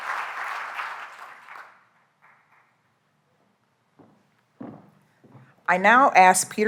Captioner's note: applause